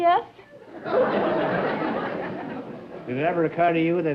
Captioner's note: laughter